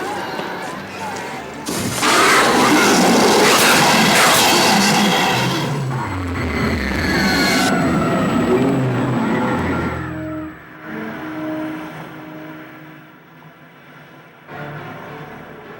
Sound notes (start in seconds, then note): 6.1 eerie sound